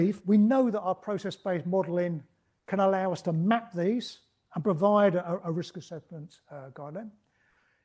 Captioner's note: none